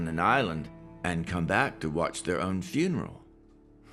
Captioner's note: none